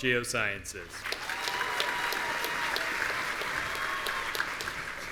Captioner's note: audience cheering